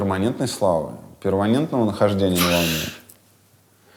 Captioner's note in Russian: фыркает